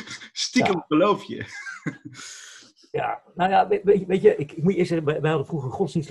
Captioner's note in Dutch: gelach